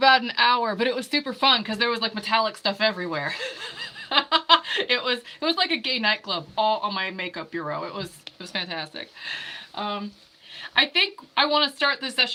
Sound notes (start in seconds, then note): 3.3 laughing